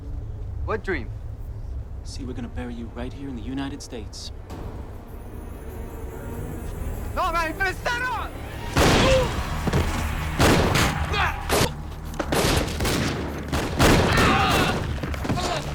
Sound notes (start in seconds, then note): 4.6 ominous music; 7.3 drug runner yells in Spanish; 8.7 gunshots banging; 14.1 drug runners groaning